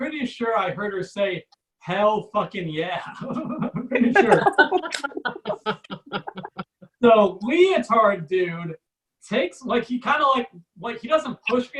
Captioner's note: audience laughs